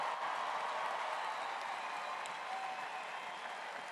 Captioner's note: applause